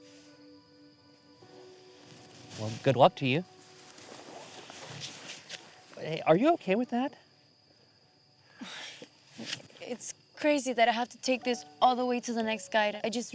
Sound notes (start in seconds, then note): 8.5 sighs